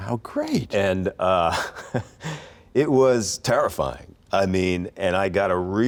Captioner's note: laughs